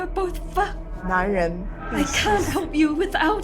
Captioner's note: Mandarin language